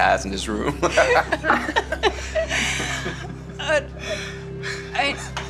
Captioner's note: laughter